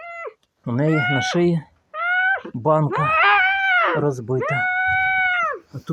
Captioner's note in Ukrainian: Нявкання; Нявкання